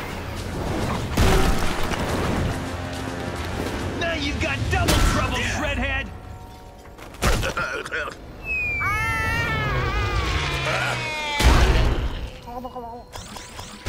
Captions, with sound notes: Now you've got double trouble Shreadhead. [groaning] [screaming] Huh?